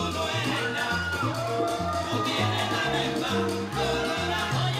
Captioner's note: audience cheering